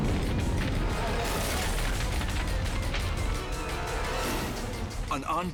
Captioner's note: explosion booming; fire roaring and crackling